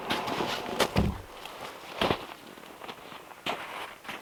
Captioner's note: log thumping